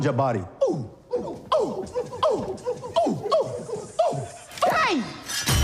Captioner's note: affronted chanting